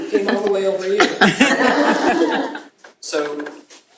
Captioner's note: laughter